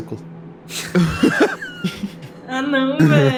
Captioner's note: laugh